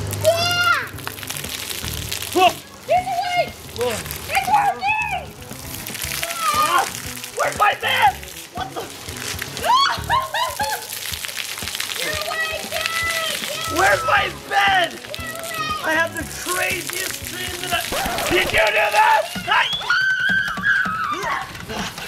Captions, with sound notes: - Yeah. - Whoa! - He's awake! Its working. - Where's my bed? What the? (laughing) - Your awake Dad, your awake. - Where is my bed? I had the craziest dreams. Did you do that? (screaming)